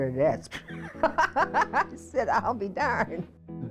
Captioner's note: laughing